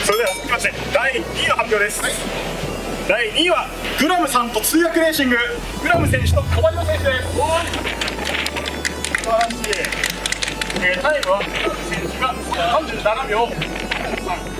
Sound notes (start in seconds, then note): 6.9 clapp with strong wind